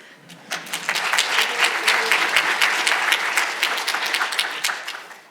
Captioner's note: audience applauding